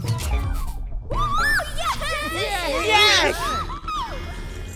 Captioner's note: victorious cheering